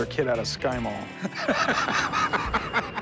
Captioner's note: laughs